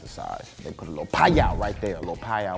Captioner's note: fire sparks